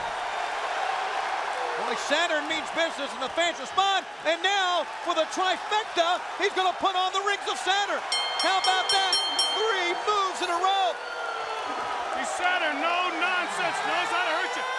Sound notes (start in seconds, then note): 0.3 crowd cheering; 8.0 bell ringing